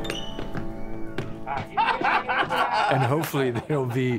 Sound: laughing

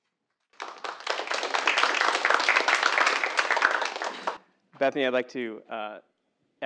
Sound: applause

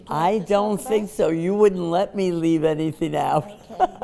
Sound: laughs

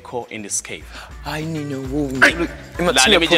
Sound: Lasizwe speaking in foreign language

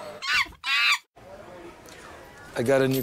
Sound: monkey squeaking

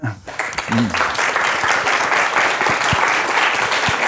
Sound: laughs; audience applauds

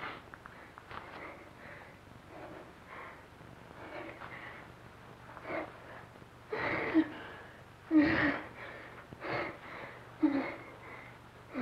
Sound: breath sounds

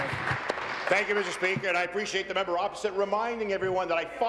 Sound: applause

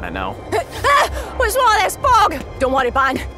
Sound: gasps

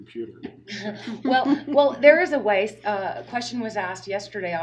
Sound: laughing

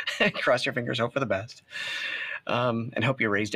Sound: laughter

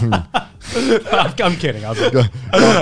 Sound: laughing

